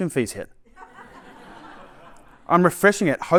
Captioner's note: laughter